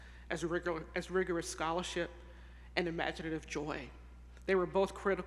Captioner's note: none